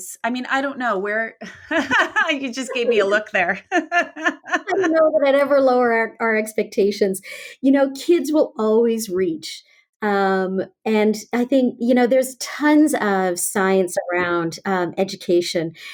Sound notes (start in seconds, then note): 1.5 laughs; 3.7 both laugh